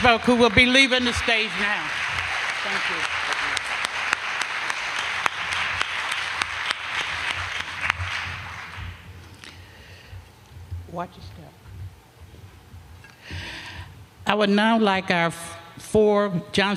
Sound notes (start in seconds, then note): 2.0 applause; 7.2 applause